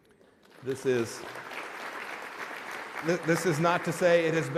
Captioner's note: applause